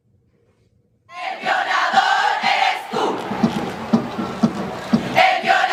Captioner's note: non-english speech